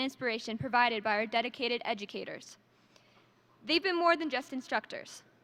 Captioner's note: none